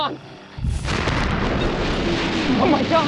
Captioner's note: crashing